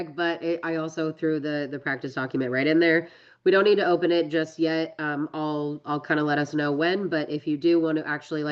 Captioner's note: none